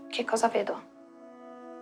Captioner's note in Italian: none